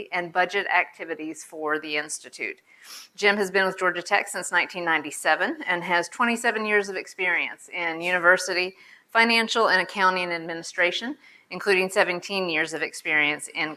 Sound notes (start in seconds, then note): none